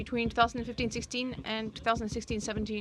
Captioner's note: speaking in french